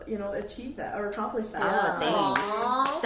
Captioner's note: others coo in agreement